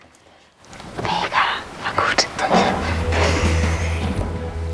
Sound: whispering

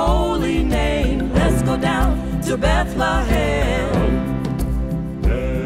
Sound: humm

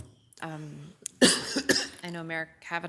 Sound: coughing

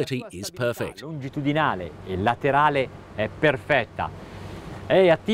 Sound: speaking in Italian

